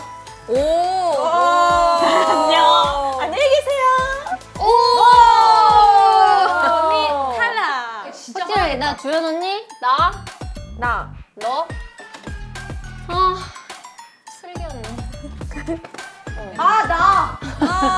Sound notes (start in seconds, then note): 13.2 sighing